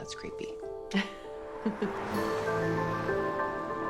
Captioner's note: Jill chuckles; suspenseful music